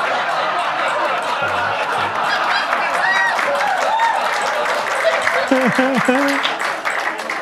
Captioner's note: audience laughs; audience cheers; audience claps